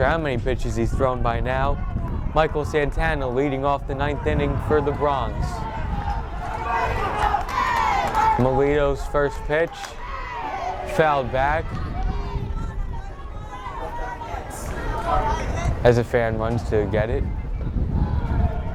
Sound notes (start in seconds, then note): 7.7 fans chanting